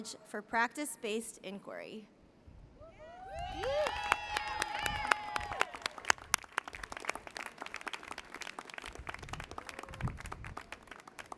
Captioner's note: applause